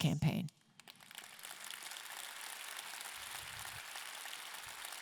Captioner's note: audience clapping